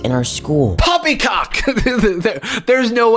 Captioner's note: laughs